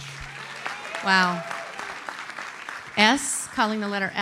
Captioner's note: audience applauds